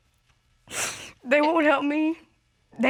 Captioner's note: sniffles